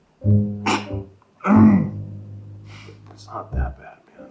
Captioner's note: Karen chuckles